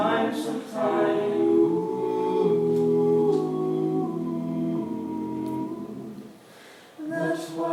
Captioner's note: ooooooooh